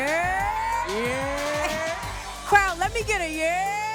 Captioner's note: audience cheers